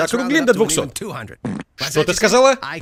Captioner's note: passing gas